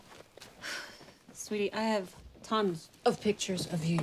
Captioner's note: sighs